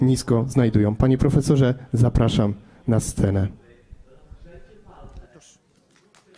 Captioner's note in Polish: oklaski